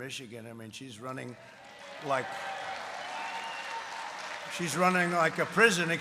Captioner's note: applause